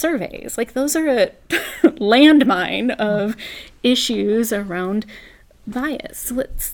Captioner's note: laugh